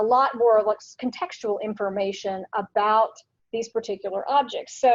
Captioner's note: none